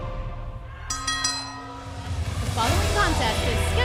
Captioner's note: bell ringing